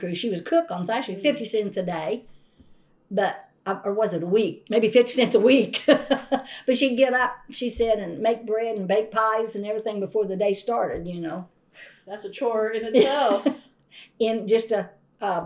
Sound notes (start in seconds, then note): 5.8 laughs